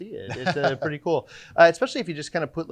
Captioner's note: laughing